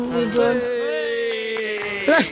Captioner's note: cheers